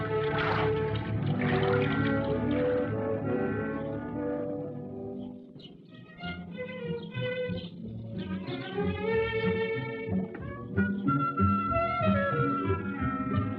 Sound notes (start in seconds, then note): 0.0 sloshing; 5.0 birds chirping